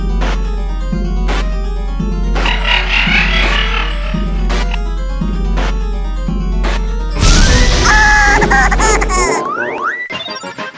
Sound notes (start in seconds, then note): 2.4 evil laughter; 7.8 screams